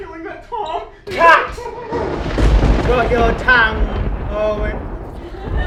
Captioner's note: thunder cackles